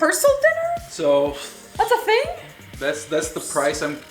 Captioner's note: male Voice